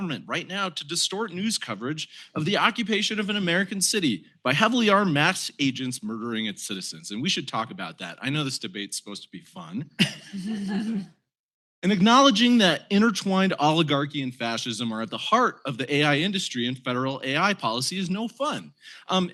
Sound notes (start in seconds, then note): 9.9 laughter